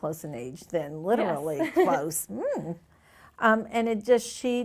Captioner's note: chuckles